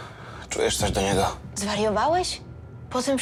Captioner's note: none